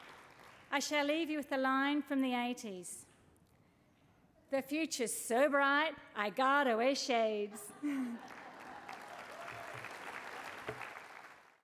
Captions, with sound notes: I shall leave you with a line from the '80s - "The future's so bright I gotta wear shades." (CHUCKLES) (LAUGHTER AND APPLAUSE)